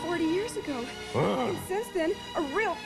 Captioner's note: grunts